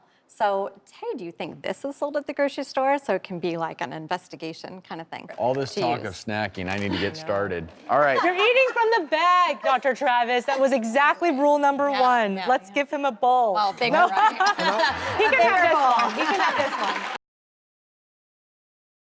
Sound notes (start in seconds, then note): 13.7 laughter; 16.5 applause